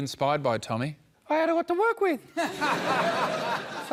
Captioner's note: tiny voice